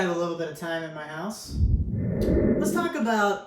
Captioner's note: air whooshing